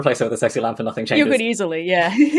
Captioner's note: laughs